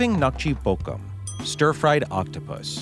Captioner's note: bell rings